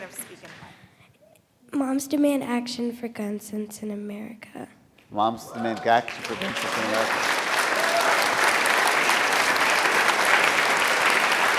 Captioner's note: applause